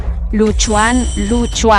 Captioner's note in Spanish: campana